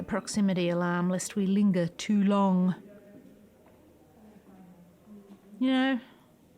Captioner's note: long pause